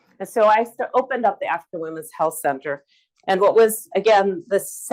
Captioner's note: none